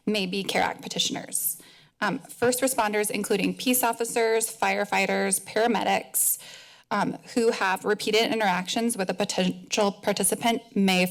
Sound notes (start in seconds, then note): none